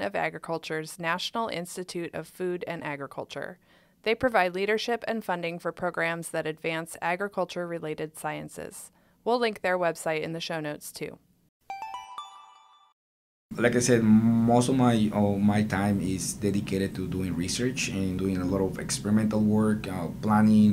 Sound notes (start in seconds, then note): 11.7 chime